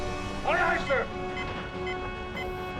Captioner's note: beeping